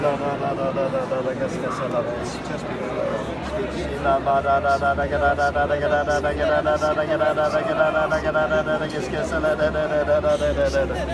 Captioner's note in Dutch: spreekt in tongen